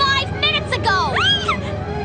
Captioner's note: shriek